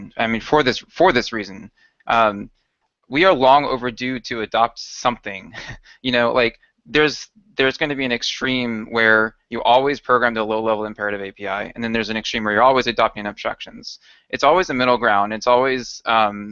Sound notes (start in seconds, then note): 5.4 chuckles